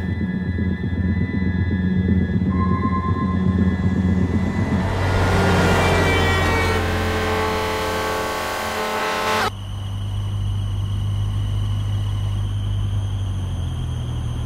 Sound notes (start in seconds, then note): 1.9 music swells and intensifies; 4.8 horn blares; 4.8 passing truck roars; 9.3 engine squeals